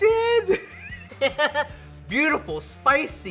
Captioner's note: laughing